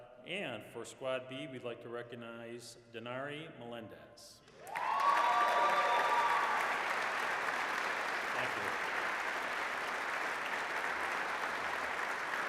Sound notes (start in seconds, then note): 4.5 applause, cheering; 9.2 applause